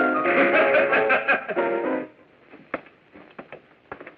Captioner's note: laughing